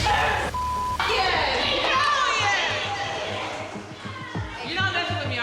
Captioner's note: beep